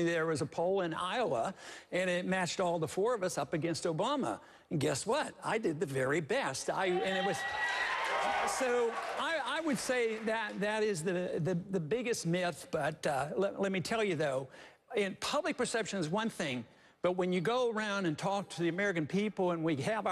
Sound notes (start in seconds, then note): 7.0 applause